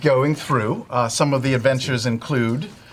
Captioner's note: quietly